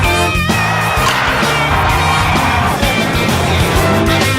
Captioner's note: crowd cheering